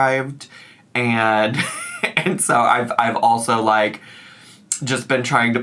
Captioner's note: giggles